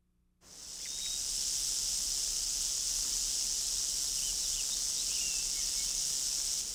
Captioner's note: voiceover